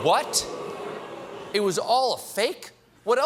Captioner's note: booing